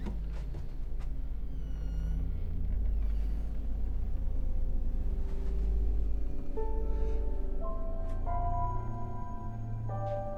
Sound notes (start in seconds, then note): 1.5 door squeaks; 6.9 foreboding piano music